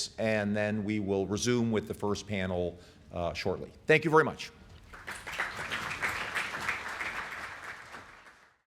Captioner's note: applause